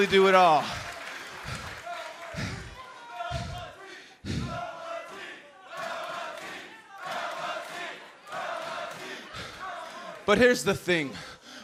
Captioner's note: crowd cheering